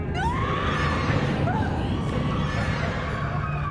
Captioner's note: screaming